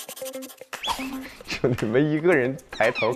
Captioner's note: scratch scratch scratch